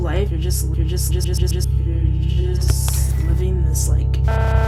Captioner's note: stuttering